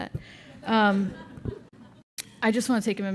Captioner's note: laughter